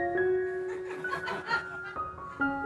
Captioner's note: laughter